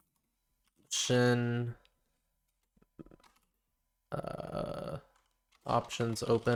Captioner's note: silence